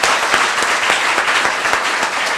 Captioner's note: applause